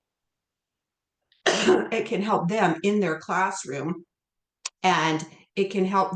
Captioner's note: coughs